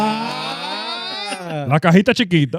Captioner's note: laughing